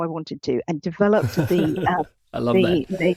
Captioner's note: chuckling